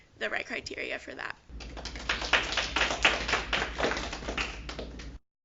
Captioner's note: applause